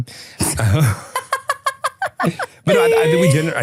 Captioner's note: laughing